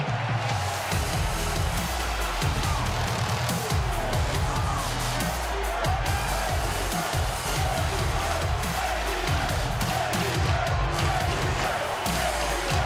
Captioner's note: crowd chanting, "kay lee ray"